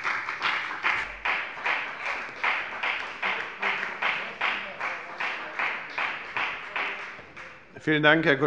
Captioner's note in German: Beifall bei der FDP